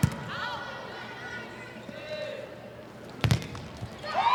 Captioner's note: ball thumping; players shouting indistinctly; ball thumping; audience cheering